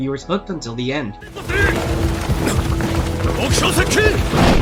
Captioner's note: horses galloping; trees rustling